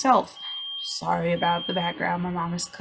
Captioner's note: appliance beeping